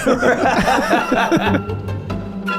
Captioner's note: all laugh; whimsical music